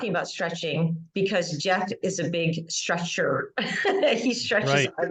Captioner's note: laughing